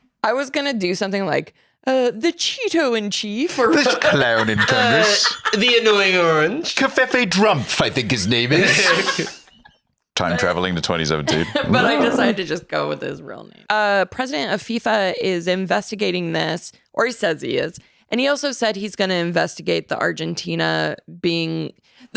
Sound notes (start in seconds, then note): 8.6 laugh